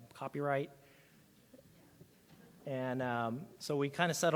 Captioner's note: audience laughs